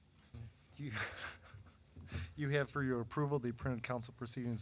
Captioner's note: laughs